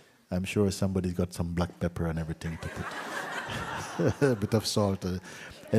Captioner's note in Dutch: gelach